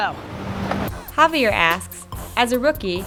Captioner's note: hip-hop music; voiceover